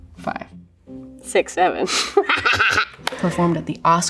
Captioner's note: laughs